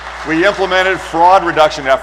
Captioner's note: applause